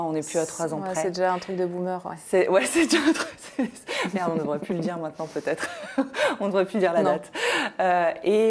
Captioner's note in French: rires